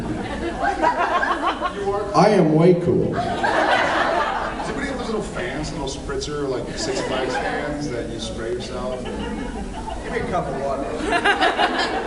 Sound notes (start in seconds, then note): 0.1 laughs; 3.2 laughs; 10.8 laughs